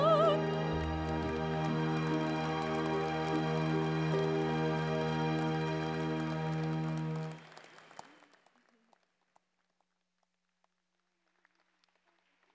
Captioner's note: applause